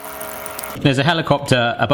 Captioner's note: helicopter buzzing